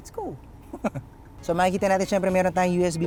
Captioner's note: laughs